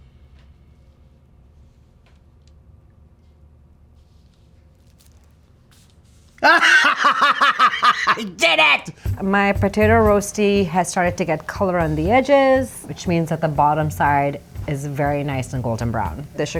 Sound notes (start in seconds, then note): 6.4 laughs